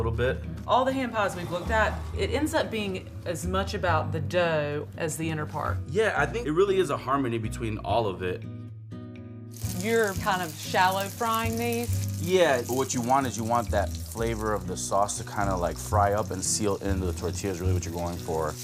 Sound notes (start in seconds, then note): 9.3 sizzling